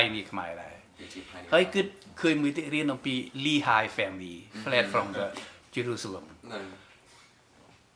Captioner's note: in English